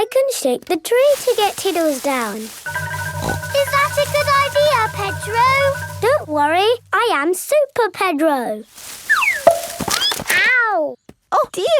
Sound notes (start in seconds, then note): 3.6 snorts; 9.6 thud